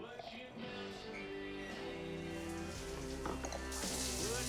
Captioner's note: water running